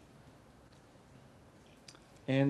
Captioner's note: pause